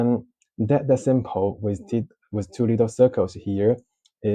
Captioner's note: mispronunciation